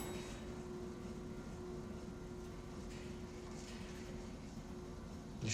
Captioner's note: elevator whirring